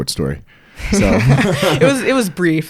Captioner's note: both laugh